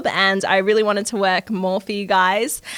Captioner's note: none